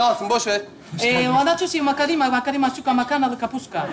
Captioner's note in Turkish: korece konuşur